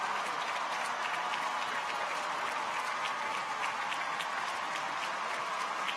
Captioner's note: people continue cheering